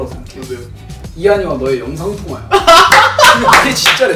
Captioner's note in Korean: 웃음